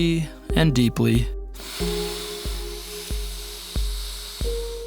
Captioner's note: inhaling